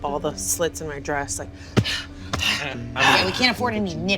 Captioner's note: breathing heavily